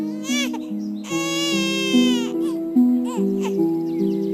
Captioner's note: baby crying